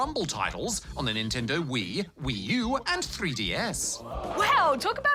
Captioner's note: audience exclaims